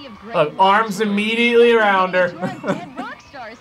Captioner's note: chuckles